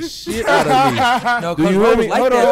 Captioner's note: laughing